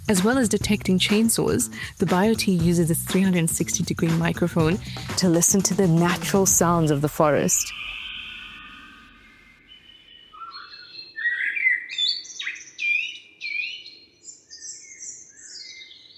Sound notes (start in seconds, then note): 9.3 birds singing